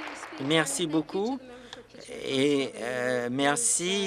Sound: applause

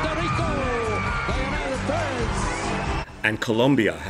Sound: audience cheers

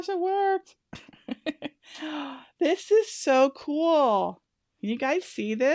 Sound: laughs

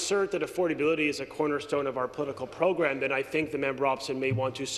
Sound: some Applause

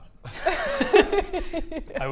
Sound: unconvinced giggles

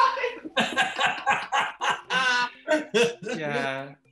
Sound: laughing; Russell guffaws

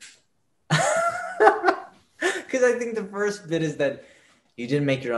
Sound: laughs

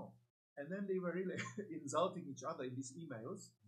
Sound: laughs

